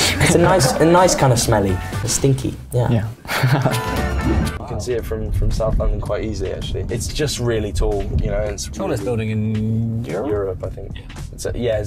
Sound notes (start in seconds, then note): 0.0 laughing; 3.2 laughing